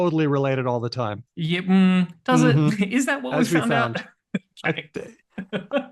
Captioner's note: laughs